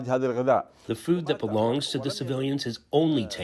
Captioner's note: through translator